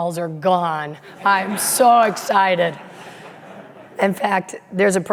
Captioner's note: audience laughing